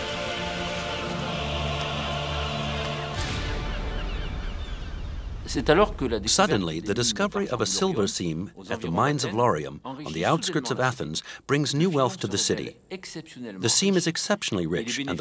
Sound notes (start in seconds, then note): 5.5 professor speaking in foreign language